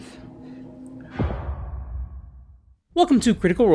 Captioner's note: impact boom